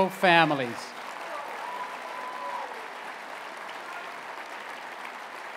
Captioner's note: applause